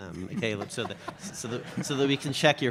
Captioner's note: audience laughs